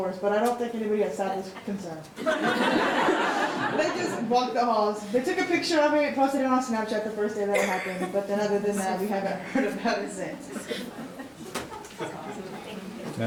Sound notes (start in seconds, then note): 2.2 all laughing